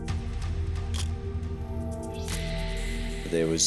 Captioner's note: camera shutter click